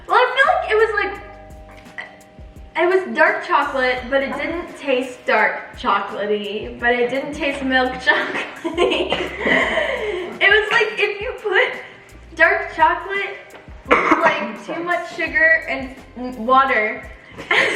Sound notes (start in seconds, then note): 7.1 giggles